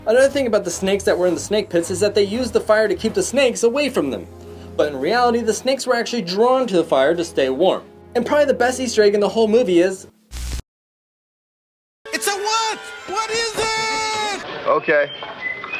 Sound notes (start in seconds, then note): 10.3 static